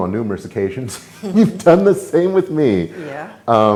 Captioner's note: chuckles